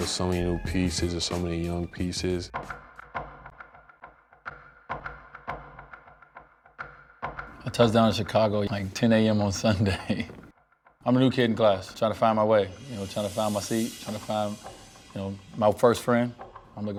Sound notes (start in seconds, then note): 2.7 lively percussion music; 9.6 chuckles